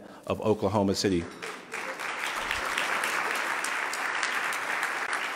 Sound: loud clapping

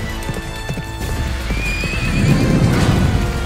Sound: horse neighing

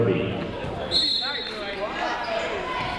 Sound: whistle tweeting; people shouting in the crowd

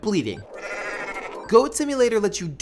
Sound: goat bleats

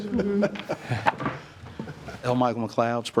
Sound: trustees chuckling

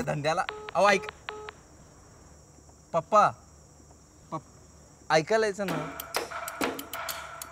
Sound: call disconnected tone

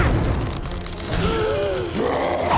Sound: gasping; screaming

